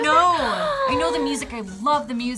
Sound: gasps

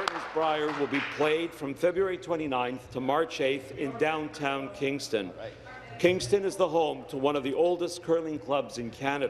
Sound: applause

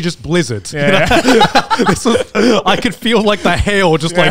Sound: laughing

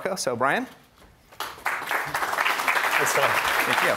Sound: audience applauding

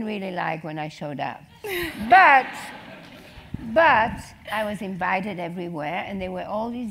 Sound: laugh

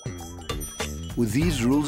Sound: bell dings

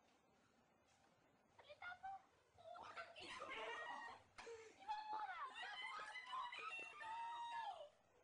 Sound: shouting from the inside

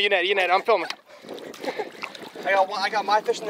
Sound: laughs

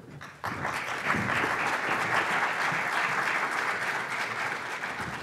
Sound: audience applause

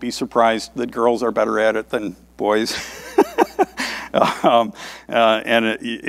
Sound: laughs

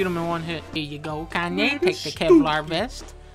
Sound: making kid sounds in the back

